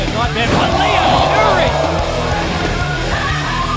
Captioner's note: crowd Cheering; rock music; crowd Cheering